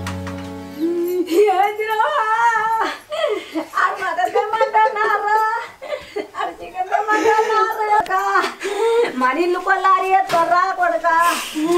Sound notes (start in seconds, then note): 0.7 both crying; 6.7 crying continues